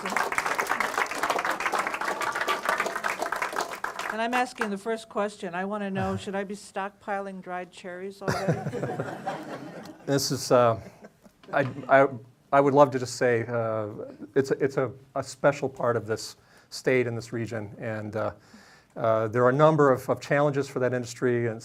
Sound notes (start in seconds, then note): 0.0 audience clapping; 8.3 everyone laughing